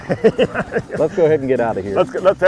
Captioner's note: laughs